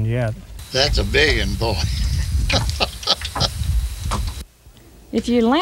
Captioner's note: chuckles